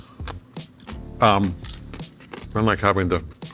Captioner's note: chips crunching